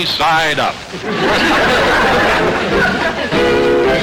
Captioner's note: audience laughter; lively music